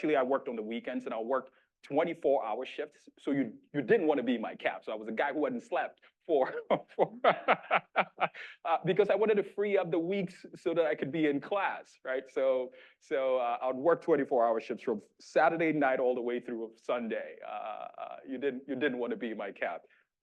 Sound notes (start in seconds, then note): 6.3 laughing